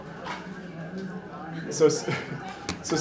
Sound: murmurs of a crowd

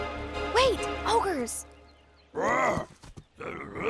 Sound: muttering

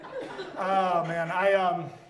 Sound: audience laughs

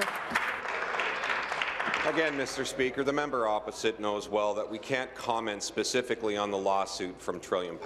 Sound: applause

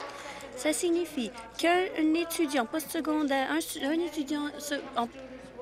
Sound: applause

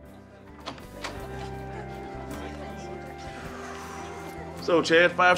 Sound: audience chatting indistinctly

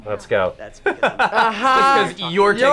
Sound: laughs

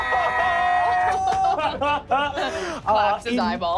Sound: laughing

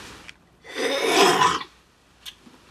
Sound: clears throat

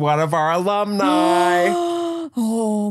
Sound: gasps

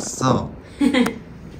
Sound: laughing

